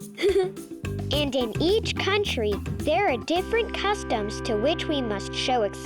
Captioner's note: laughs